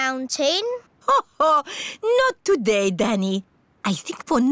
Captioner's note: laughs